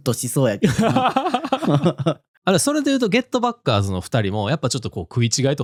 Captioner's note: laughs